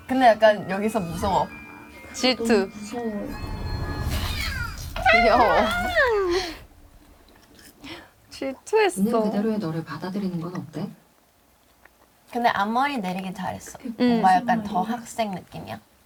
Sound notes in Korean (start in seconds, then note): 4.0 우아앙